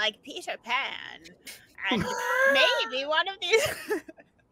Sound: laughs

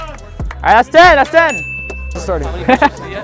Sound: bell dings

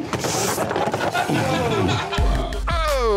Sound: customers laughing

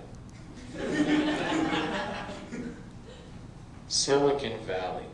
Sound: laughter

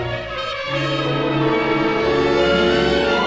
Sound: none

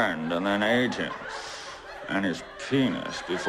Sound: light laughing

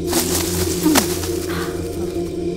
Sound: grunting

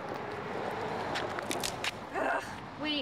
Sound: cracking

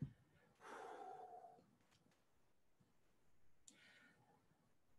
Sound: exhales sharply

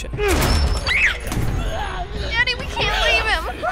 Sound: screaming

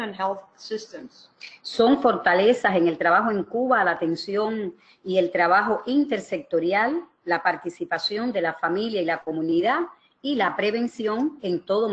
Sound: speaking another language

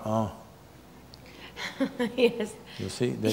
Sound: laughs

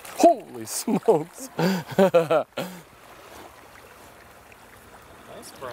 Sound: laughing

